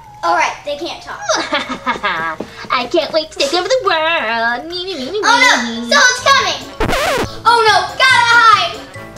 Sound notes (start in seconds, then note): 1.4 maniacal laughing; 4.7 taunting; 6.7 record scratches